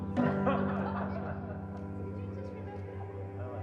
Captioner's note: all laughing